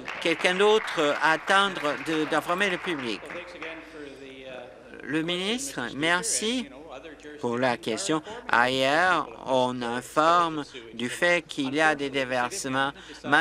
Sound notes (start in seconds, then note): 4.2 applause